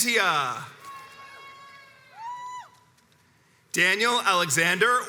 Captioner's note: crowds cheers and applauds